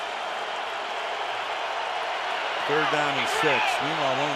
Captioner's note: cheering